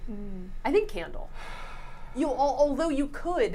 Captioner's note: sighs